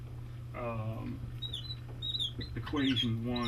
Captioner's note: marker squeaking